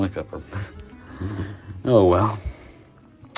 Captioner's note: chuckles